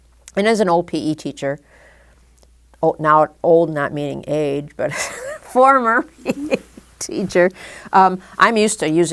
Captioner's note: chuckle